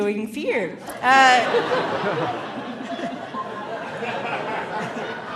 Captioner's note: audience laughing